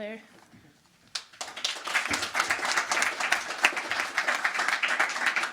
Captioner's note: crowd applauding